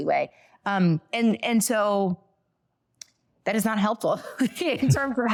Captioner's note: laughing